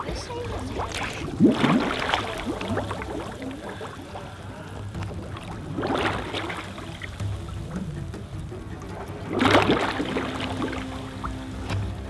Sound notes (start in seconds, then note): 1.4 bubbles sloshing